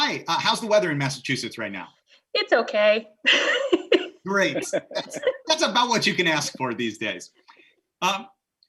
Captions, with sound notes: - Hi, how's the weather in Massachusetts right now? - It's okay. (laughing) - Great. That's about what you can ask for these days.